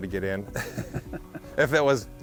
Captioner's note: chuckles